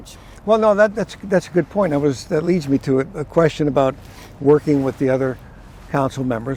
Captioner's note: none